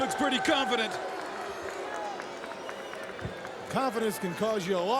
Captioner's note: applause